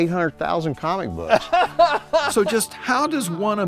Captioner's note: laughing